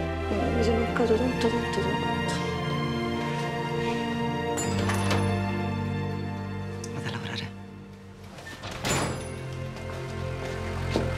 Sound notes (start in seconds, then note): 4.6 lock click